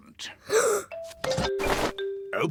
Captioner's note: gasps